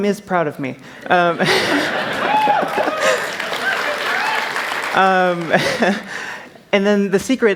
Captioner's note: cheers; applause